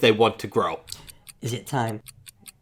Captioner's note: clock ticking